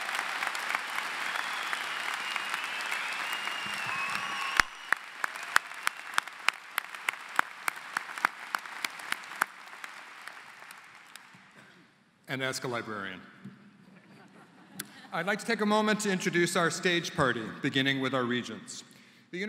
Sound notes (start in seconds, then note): 0.8 applause